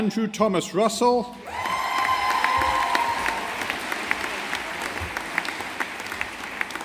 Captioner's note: audience applauding